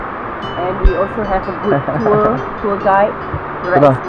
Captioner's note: laugh